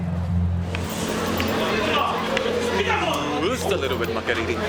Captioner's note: yelling